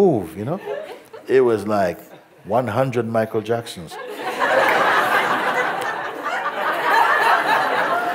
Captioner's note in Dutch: gelach